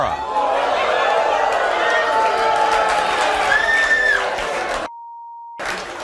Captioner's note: audience cheering; audience applauding